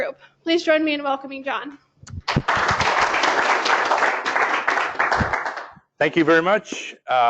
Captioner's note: applause